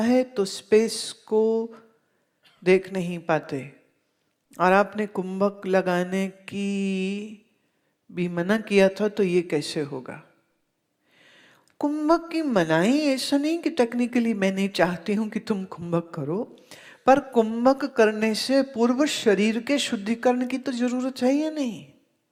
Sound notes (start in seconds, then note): 7.5 retaining the breath